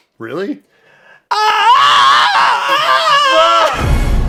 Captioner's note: yells off-key